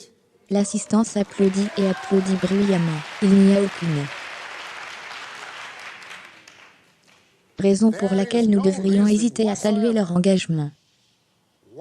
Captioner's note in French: L'assistance applaudit et applaudit bruyamment